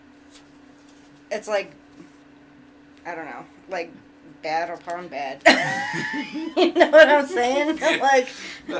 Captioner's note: laughs